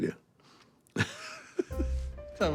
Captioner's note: laughing